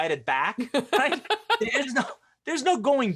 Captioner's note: laughs